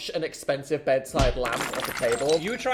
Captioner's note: fist thumping; glass shattering